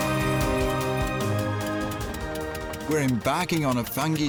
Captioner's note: engine sputtering